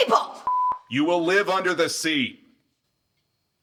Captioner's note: beep